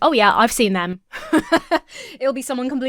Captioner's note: laughs